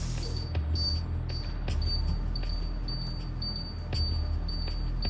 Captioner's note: electronic beeping